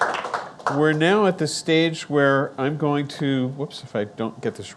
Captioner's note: audience clapping